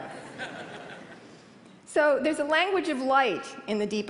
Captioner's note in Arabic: ضحك